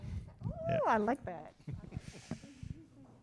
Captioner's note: chuckling